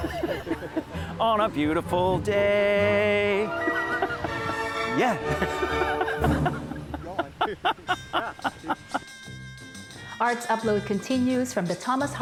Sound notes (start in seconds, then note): 5.1 laughing; 7.1 jazzy music